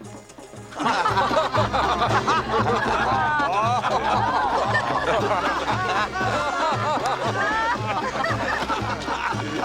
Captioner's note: people laughing